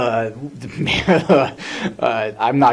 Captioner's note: laughs